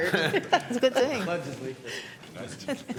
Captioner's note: laughter